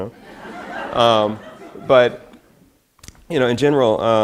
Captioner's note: audience laughs